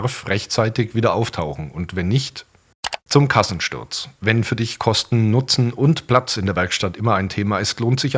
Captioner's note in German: click